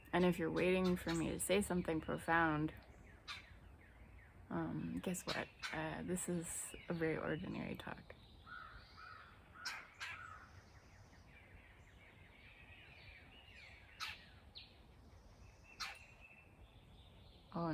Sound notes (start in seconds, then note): 11.5 one loud bird chirping